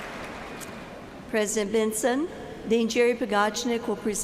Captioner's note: applause